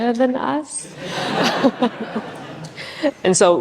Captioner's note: audience chuckles